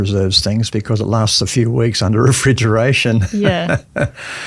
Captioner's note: laughs